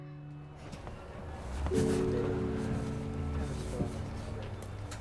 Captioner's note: engine rumbling